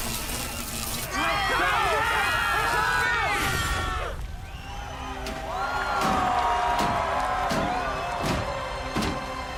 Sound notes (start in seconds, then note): 1.1 shouting; 5.9 cheering